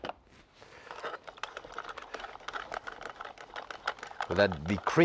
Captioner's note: handle clattering